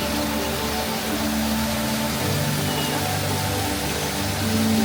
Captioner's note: water running